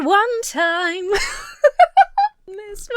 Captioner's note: Emma laughs